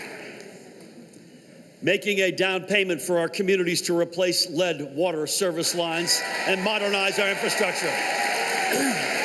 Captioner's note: applause